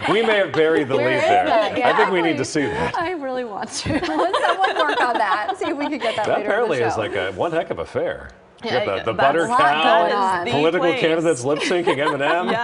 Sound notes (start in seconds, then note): 3.7 laughter